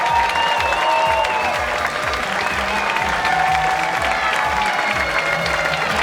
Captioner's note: cheers and applause